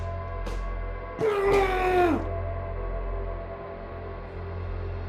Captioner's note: Kenny screams